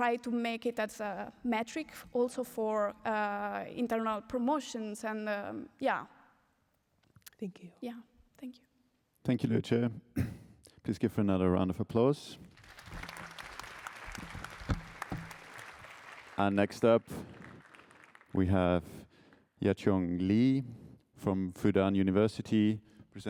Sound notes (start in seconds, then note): 12.5 applause